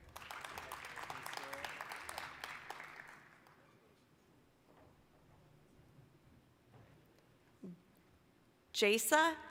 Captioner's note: applause